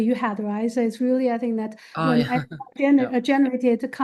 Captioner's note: faintly speaking